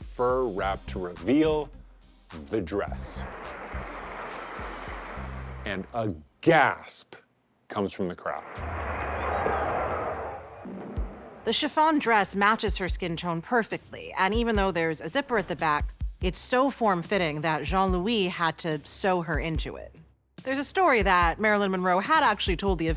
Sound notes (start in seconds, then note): 3.2 chatter & applause; 8.5 indistinct chatter